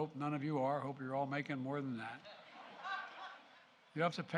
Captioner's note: laughter